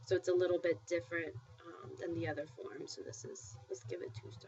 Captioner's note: spanish